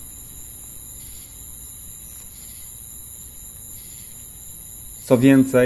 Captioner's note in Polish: odgłosy nocy